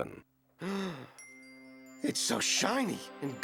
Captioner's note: gasps